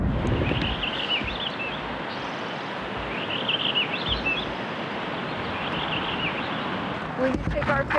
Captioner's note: birds